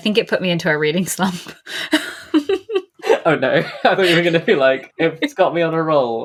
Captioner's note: laughs